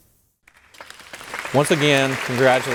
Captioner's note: people applauding